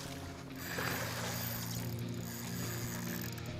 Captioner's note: line reeling